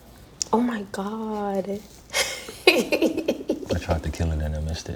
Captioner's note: laughs